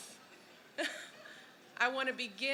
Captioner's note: laughter